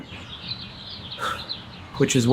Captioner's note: birds singing; sighing